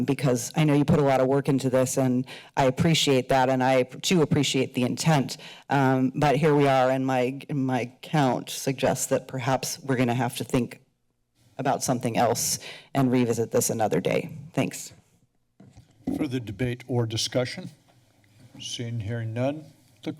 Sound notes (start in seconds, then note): 16.0 mic sounds